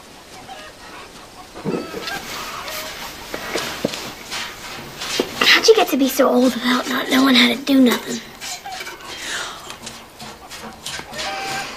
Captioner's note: groans